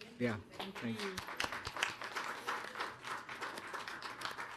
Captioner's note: audience applauding